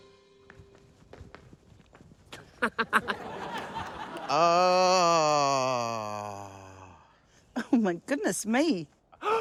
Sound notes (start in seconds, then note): 2.4 giggles; 4.3 sighs; 9.2 gasps